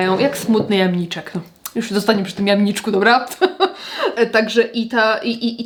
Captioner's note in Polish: śmiech